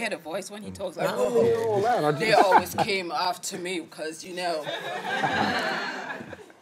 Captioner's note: everyone laughing